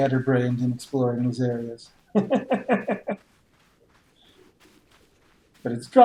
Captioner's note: chuckles